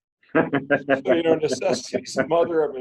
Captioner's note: laughing